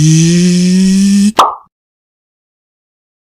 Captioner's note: pop